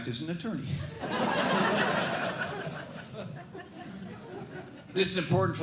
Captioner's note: laughter